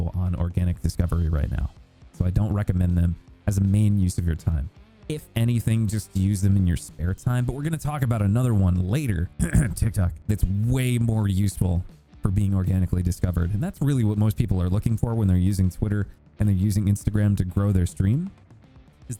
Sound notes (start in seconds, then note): 9.3 coughs